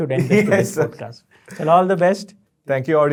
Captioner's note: chuckles